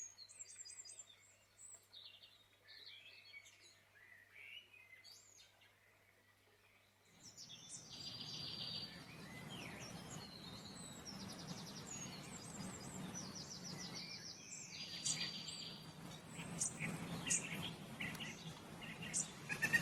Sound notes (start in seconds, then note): 7.1 birds chirping